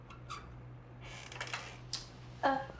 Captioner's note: door squeaks